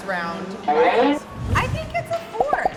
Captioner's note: cartoon sound effect